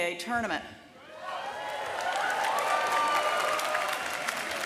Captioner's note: cheers and applause